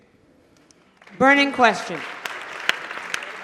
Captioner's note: applause